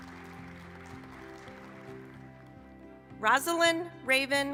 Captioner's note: applause